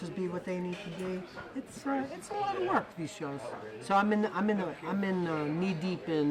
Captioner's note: none